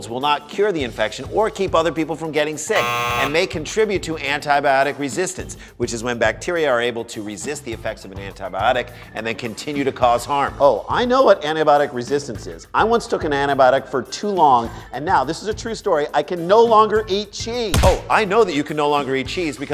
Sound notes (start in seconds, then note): 2.7 buzzer